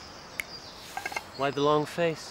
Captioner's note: snapping